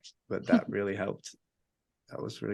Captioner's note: chuckles